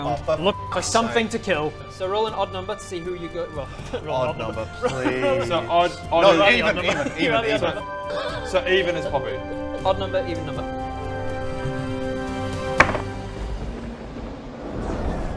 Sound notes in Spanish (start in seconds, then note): 3.8 ¡ja!